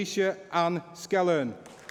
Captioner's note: applause